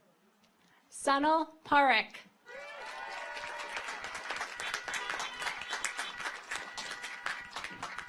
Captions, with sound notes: Sonal Parekh. (audience applauds) (car horns honking)